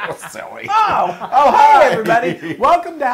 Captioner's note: laugh